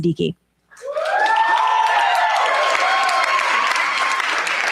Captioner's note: cheers, applause